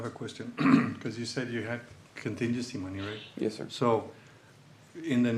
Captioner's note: clears throat